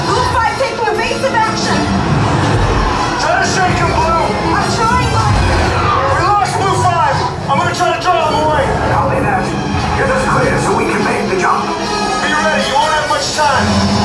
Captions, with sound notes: Blue five take more evasive action Let us shake them blue I'm trying but [whirl down noise] We lost Blue Five I'm going to try to draw them away Copy that, get us clear so we can make the jump. Be ready you won't have much time